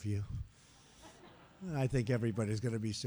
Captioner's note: laughter